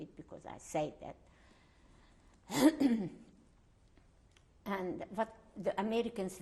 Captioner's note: pauses for 3 seconds